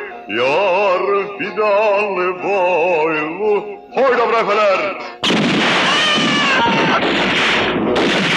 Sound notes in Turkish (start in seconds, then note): 5.2 Silah sesleri, çığlıklar